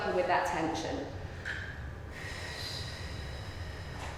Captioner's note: breathing